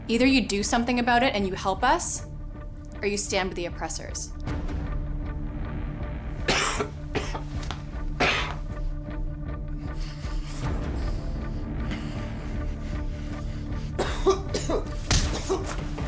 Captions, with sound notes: Either you do something about it and you help us, or you stand with the oppressors. (suspenseful music continues) (Frank coughing)